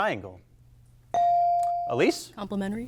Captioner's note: buzzer chimes